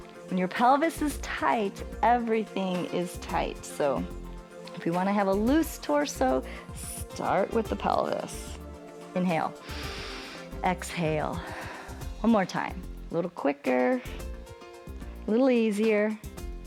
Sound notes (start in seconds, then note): 9.5 exhales; 9.6 inhales